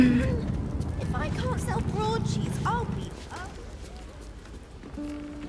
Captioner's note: NPC background chatter outside; gentle, acoustic guitar